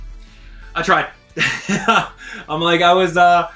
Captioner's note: laughs